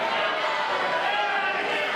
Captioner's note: shouting